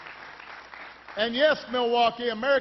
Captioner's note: applause